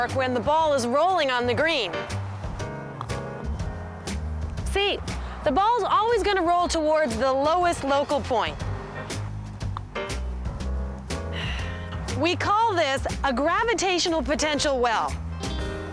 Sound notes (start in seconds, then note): 11.3 sighs